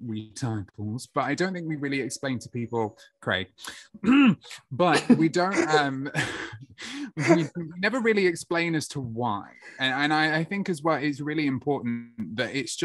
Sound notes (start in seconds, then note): 4.9 laughter